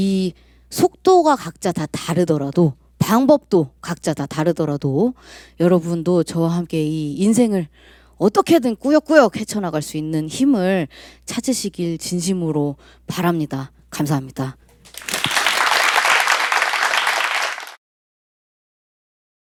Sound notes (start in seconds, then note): 14.8 applause